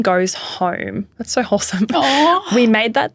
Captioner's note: chuckling